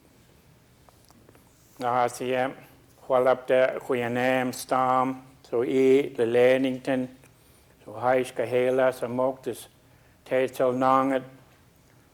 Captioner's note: speaking a local Indigenous language